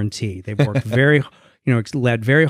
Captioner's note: laughs